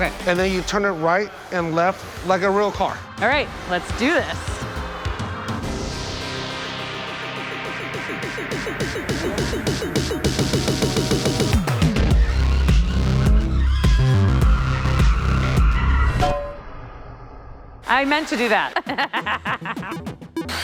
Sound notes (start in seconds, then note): 18.4 laughs